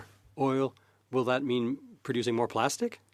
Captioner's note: speaking French